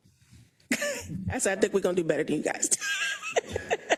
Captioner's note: laugh